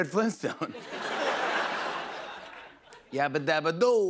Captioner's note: laughter